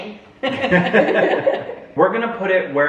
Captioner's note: family laughs